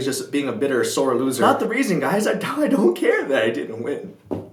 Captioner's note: voice cracking